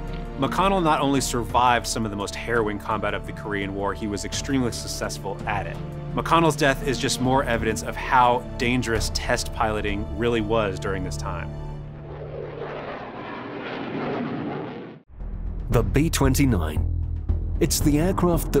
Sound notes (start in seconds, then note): 11.9 jet engines scream